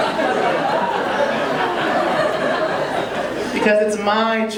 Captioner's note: audience laughing